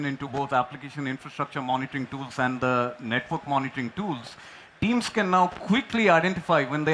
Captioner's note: applause